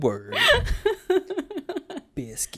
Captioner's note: laughs